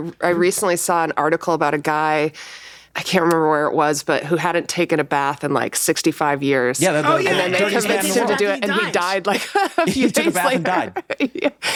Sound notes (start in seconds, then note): 8.0 everyone talking; 10.0 laughs; 11.6 laughs